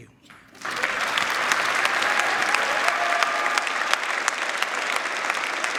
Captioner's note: crowd cheering